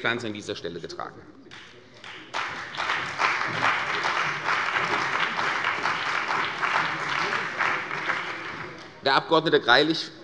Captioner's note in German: Beifall bei der CDU und dem BÜNDNIS 90/DIE GRÜNEN